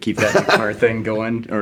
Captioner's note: laughing